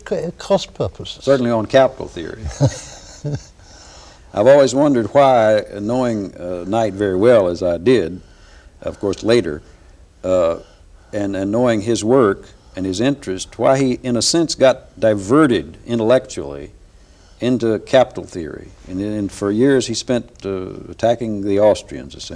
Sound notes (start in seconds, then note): 2.4 laughter